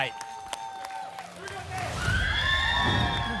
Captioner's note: applause and cheering; whoosh